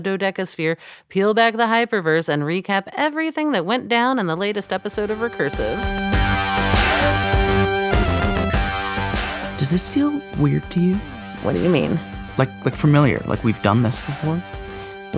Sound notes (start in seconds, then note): 6.3 recap music up; 9.6 quietly, slightly off mic